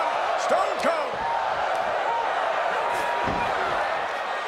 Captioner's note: crowd cheering